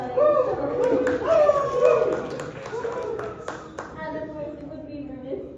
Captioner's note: cheers